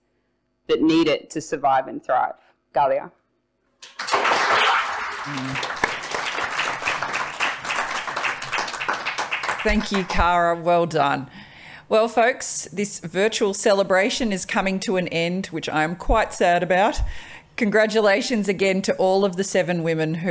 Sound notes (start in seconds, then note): 2.6 speaking foreign language; 3.8 applause